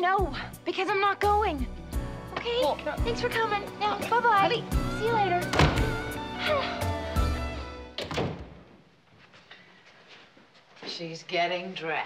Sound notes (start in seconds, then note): 6.3 sighs; 7.9 door closes